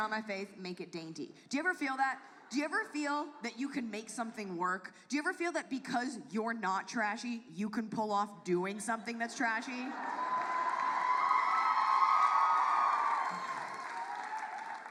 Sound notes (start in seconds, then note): 9.9 audience cheers